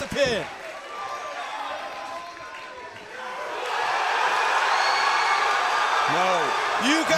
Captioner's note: crowd cheering